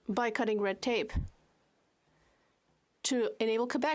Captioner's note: speaking French